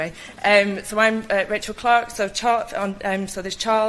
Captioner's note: stutters